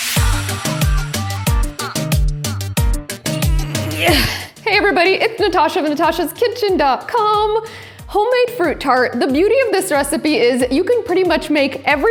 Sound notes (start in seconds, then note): 0.1 chill upbeat music; 3.2 grunting